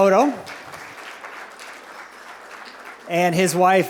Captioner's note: applause